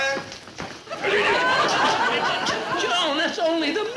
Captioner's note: choking noises